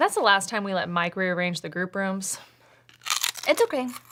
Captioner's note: chip crunching